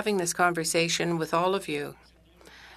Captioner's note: speaking French